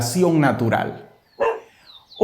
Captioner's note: dog barks